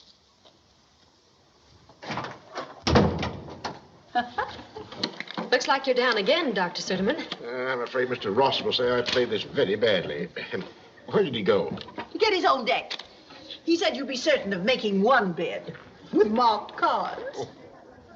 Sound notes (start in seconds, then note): 2.0 door Opens, Closes; 4.1 laughs; 17.4 Suderman Chuckles